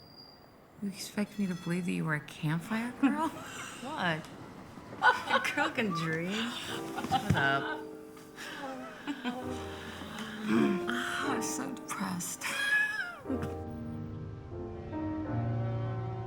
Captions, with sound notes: You expect me to believe that you were a campfire girl? What? A girl can dream. Shut up. - Oh. I'm so depressed. - [Lynn laughs] [mellow piano music playing]